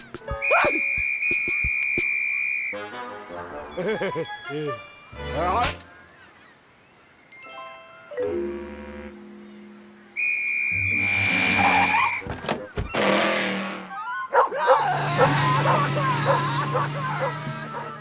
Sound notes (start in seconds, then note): 3.7 laughs; 12.2 door opens, closes; 14.3 barking